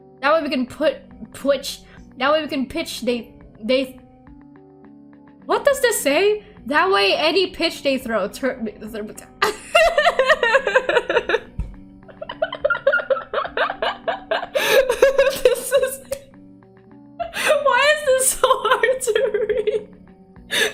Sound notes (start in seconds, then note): 8.7 stutters; 9.3 laughter; 17.6 through laughter; 20.5 laughter